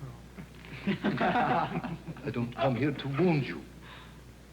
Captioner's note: men laugh